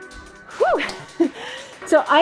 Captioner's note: laughs